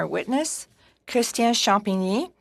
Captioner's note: speaking in French